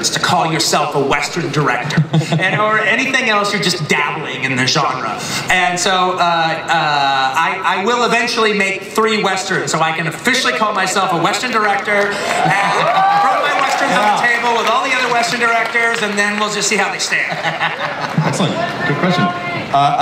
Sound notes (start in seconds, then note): 11.4 audience cheering